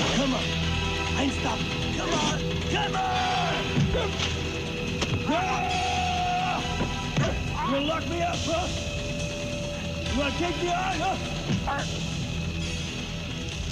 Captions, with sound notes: Come on! Come on! (man yelling) You wanna lock me up, huh? You wanna take me on, huh?